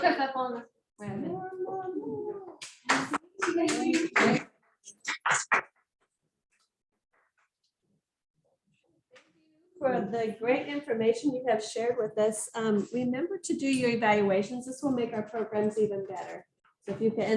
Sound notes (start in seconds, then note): 2.6 clapping